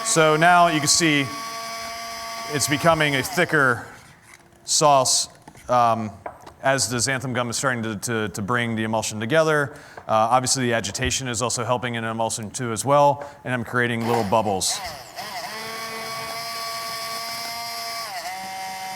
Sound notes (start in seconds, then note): 15.7 grinding